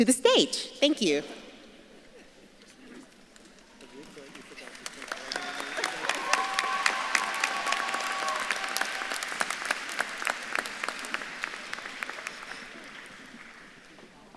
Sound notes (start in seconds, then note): 1.8 audience laughs; 4.0 faculty member faintly speaking; 5.5 audience claps and cheers